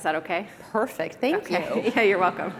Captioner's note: laughter